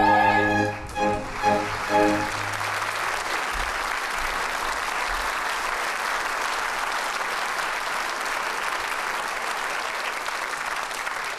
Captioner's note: applause